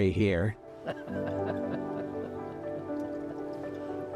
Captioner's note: chuckling